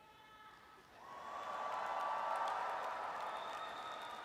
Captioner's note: audience cheers